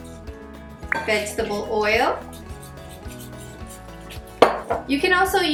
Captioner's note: whisking